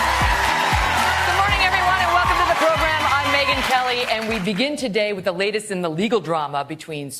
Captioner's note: applause